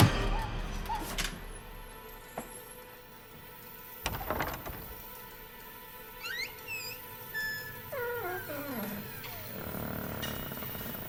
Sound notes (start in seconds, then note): 0.0 suspenseful orchestral music; 0.1 hand pounding; 4.0 door creaking; 4.7 lock clicking